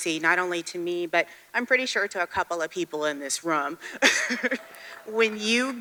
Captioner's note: chuckles